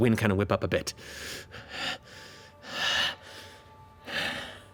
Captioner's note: breathes heavily